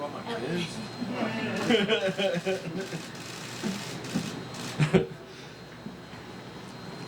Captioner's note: laughs